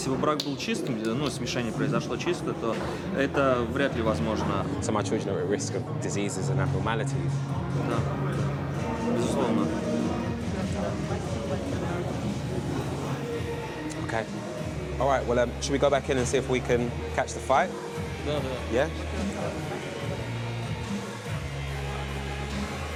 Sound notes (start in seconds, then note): 18.1 speaks in foreign language; 19.7 upbeat rock music